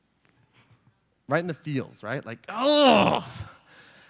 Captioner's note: groans